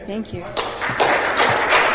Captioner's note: applause